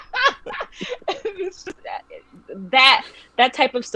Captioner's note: laughing